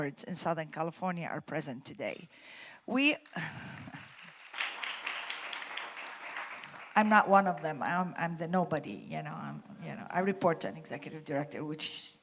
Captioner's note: applause